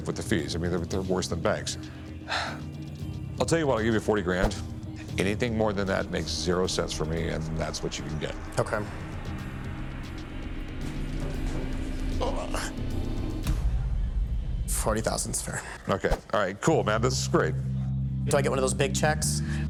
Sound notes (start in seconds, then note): 1.6 exhales sharply; 9.0 suspense music